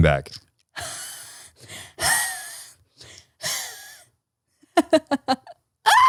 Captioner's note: wheezes; laughs